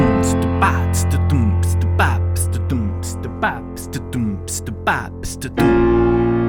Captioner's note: legendary beatbox